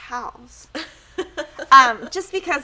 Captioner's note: laughing